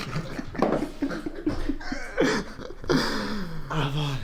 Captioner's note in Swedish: Alla skrattar